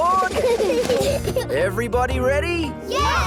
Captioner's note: children giggle